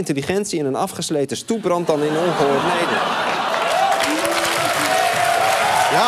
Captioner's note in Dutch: gelach; applaus, gejuich en getoeter